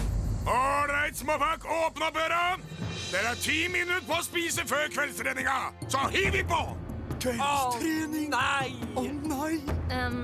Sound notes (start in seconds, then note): none